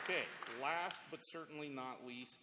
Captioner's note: applause